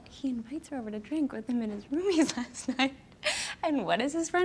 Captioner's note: laughs